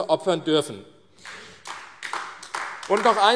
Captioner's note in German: Beifall AfD